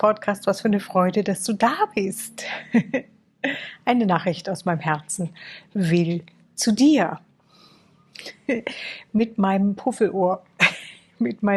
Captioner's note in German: gelächter